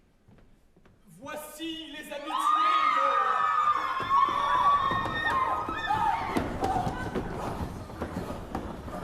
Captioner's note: A crowd enters, screaming